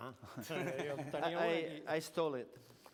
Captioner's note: non-english speech; laughter